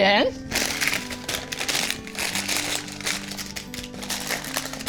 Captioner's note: parchment paper crinkling